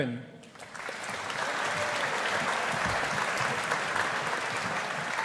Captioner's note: audience applauding